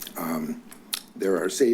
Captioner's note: clicks tongue